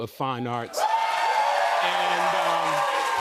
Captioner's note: cheers and applause